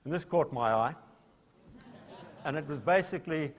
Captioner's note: laughter